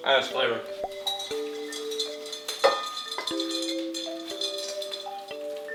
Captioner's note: chewing; tinkling into bowl